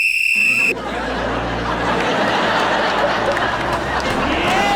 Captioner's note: whistle being blown; audience laughing